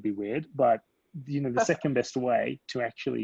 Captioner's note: laughs